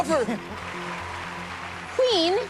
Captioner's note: applause